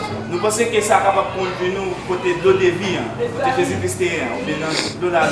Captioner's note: speaking in foreign language